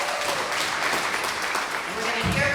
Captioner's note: applause